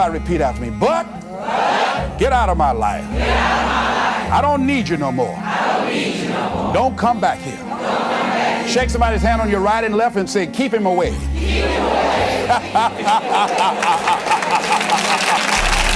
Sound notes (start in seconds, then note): 11.2 chuckle – Applause